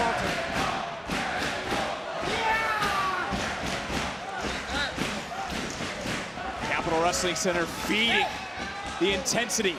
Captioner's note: applause